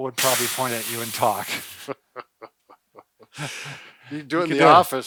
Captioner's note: laughs